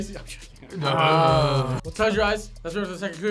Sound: laughs

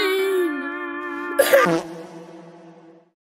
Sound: coughs and dies

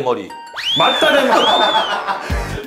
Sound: hahaha

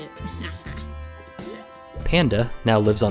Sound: laughs

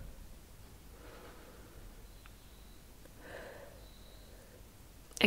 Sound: breathes

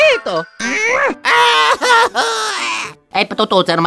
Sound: italian gibberish; grunt; screaming; italian gibberish

